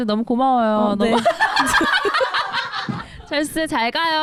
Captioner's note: shuffling out